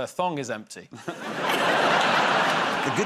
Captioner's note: laughter